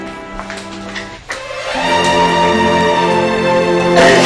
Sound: footsteps receding; dramatic music playing

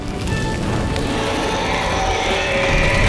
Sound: roaring

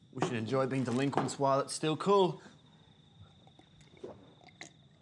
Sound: gulps

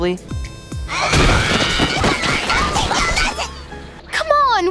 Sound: fighting sounds

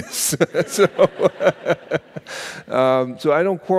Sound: laughing

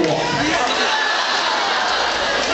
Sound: laughs

